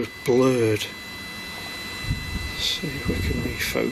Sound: machine buzzing

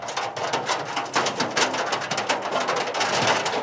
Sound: hooves clacking

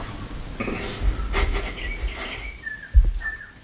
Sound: laughs

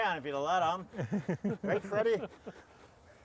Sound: squash grating

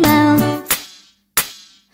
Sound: clap

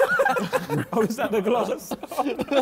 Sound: men laughing

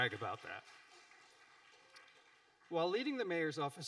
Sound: audience applauding

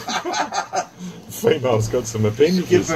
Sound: laughter

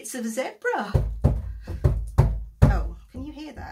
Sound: banging

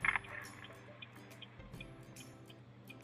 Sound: vehicle turning signal & vehicles passing

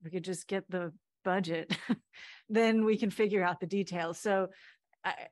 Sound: laughter

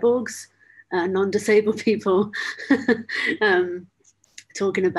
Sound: laughs

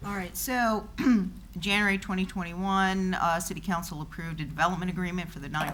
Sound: clear throat

